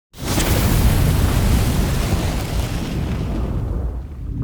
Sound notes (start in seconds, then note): 0.2 flames roaring